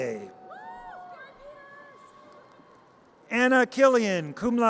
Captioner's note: audience cheers